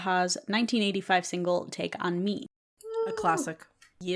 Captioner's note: happy scandi wooing